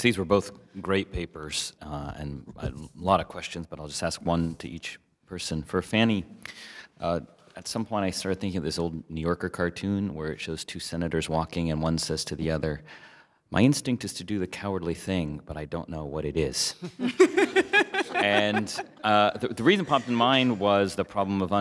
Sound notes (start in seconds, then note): 16.8 laughter